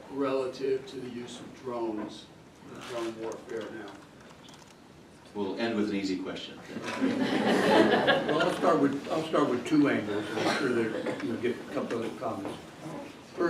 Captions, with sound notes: relative to the use of drones in drone warfare now? We'll end with an easy question. [LAUGHTER] We'll I'll start with two angles to make sure we get a couple of comments.